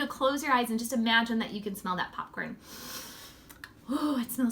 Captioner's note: sniffs